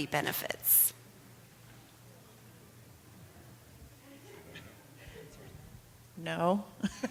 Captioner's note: laughter